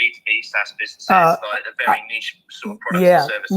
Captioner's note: both chattering